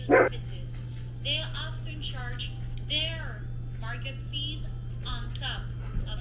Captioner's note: voice On Phone